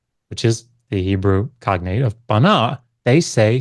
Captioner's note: speaks ancient language; speaks Hebrew